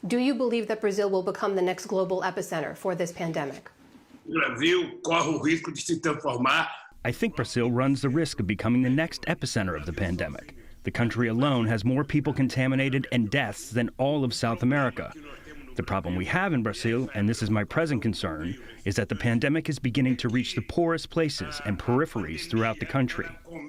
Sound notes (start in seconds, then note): 5.1 through translator